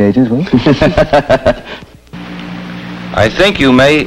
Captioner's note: laughter